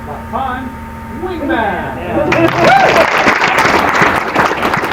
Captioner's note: applause